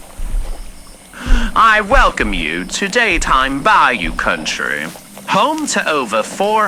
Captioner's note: walks through portal to bayou, louder bayou sounds fx; walking on leaves and vegetation fx